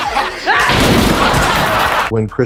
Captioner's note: table crunching; crowd laughing